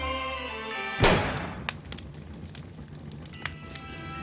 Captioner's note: pop!